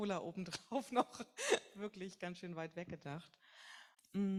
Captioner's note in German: lacht